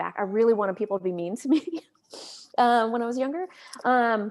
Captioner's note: laughs